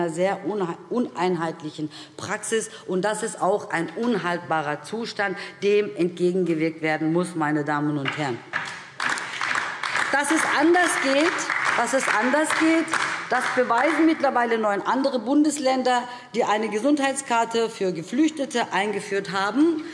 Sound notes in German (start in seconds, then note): 8.5 Beifall DIE LINKE und vereinzelt SPD